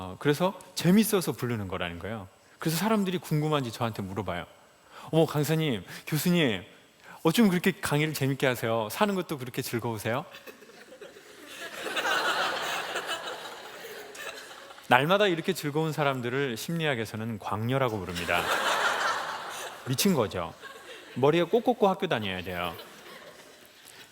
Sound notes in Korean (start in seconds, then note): 13.7 웃음